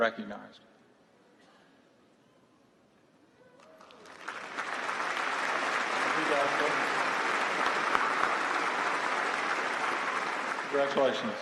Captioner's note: applause